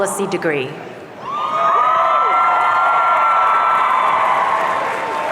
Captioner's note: audience cheering